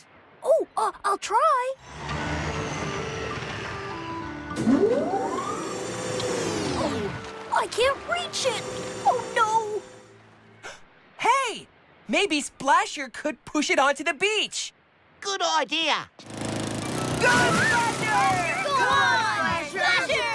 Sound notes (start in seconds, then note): 4.2 hydraulic Whirring; 10.6 gasp!; 16.2 puttering; 17.1 splash!